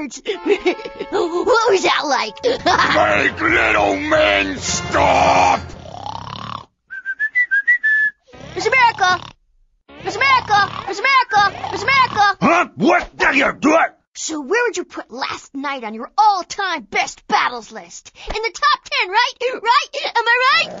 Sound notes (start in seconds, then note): 2.4 Tyler laughs; 2.4 laughs; 5.7 snoring; 6.8 whistling; 11.3 grumbles; 20.6 he growls